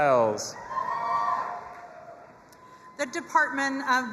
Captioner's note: audience applauding and cheering